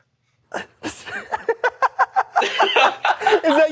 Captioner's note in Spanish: risas